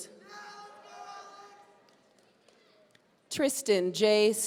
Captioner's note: audience cheering